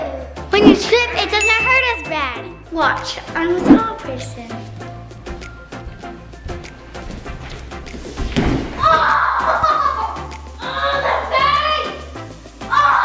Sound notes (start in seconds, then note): 10.6 cries